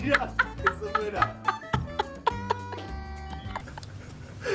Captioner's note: laughs; all laugh